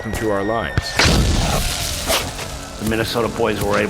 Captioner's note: explosion